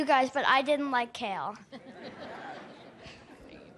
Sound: laughter

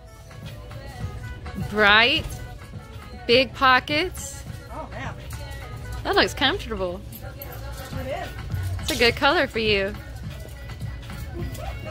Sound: giggles as she walks away

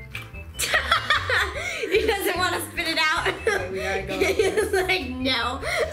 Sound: laughing

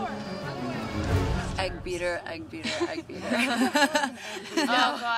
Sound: all laughing

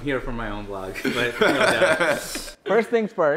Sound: both laughs

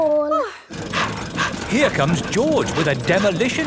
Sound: daddy pig panting

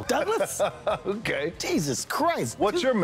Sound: Dwayne Laughs

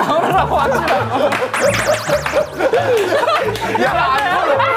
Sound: laughing

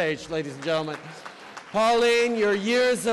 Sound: applause

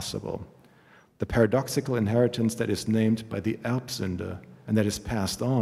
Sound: german

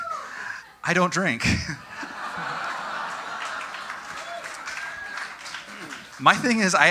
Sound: audience: Disappointed laughter mixed with clapping

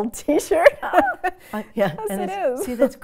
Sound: both laughs

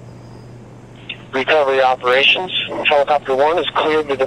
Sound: voice on radio

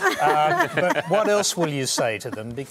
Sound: laughter

